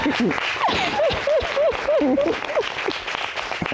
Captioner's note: sobbing happily